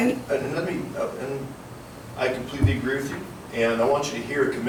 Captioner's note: none